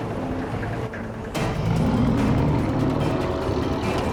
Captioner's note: growls